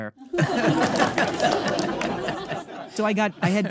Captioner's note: audience laughing